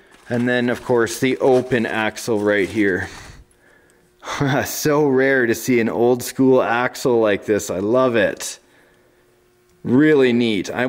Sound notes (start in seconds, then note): 4.5 laughs